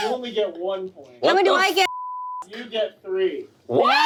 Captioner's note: beep